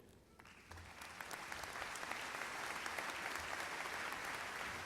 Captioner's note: audience applauds